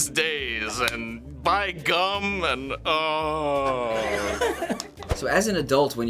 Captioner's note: groans; laughs